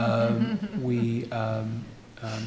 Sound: laughing

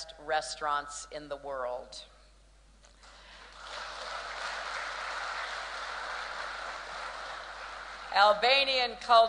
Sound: applause

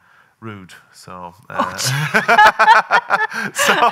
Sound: both laughing

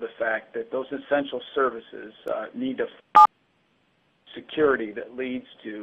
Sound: beeping

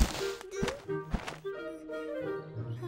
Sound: rustling

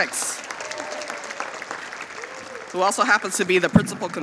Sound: audience applauding

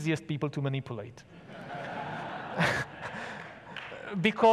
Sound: audience laughs

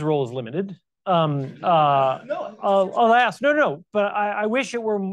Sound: audience chuckles

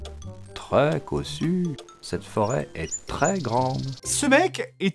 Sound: unnatural talking

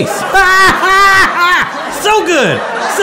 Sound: laughs

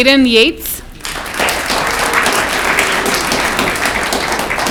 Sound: audience clapping

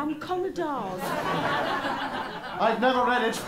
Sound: laughter

